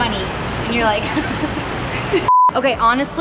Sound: laughing

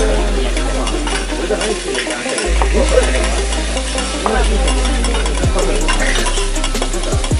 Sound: cutlery clanging together while meat is sizzling

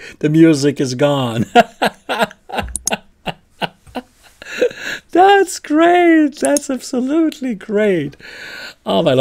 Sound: laughter

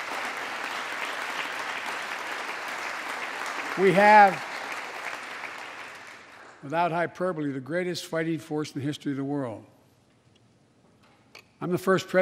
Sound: applause

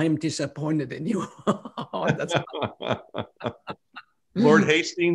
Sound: laughter

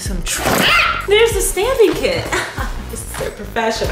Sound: laughs

